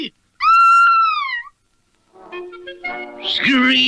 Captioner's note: Sweet Polly Purebred Screams